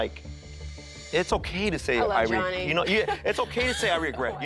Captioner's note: laughs